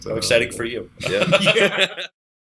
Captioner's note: laughter